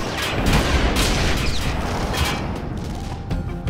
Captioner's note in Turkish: Silah sesleri